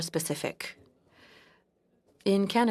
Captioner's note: speaking French